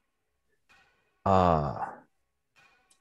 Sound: none

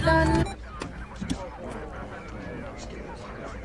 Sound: police radio

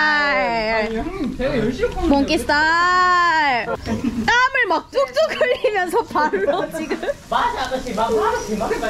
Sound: laughing

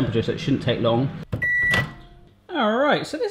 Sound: microwave beeping

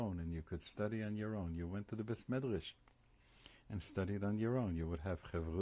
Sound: hebrew

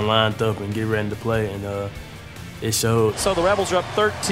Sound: voiceover

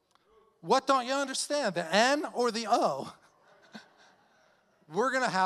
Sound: chuckling

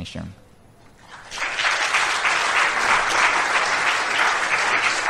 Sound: applause

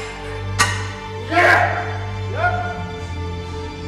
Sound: yells with anticipation

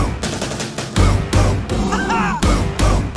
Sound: roar!

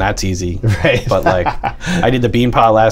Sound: laughter

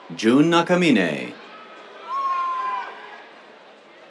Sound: cheers

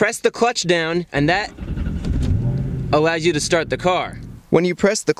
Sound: engine starts

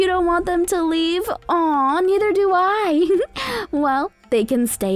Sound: laughs

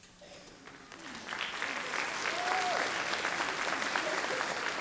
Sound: audience clapping

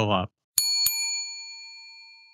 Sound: bell dings

